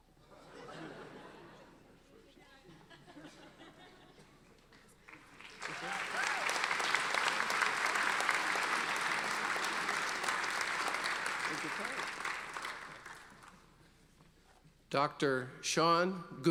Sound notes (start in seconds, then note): 5.0 audience applauding